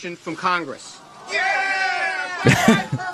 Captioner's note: cheering